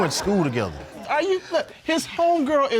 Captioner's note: all laughing